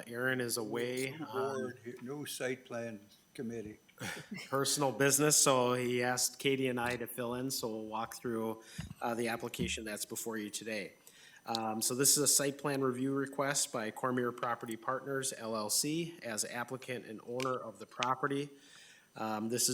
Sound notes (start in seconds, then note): 4.0 members chuckles